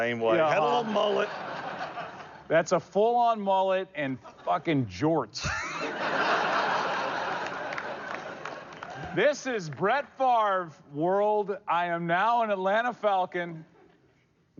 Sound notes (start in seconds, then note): 5.4 laughter